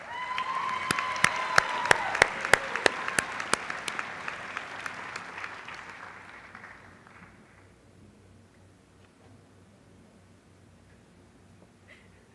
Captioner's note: applause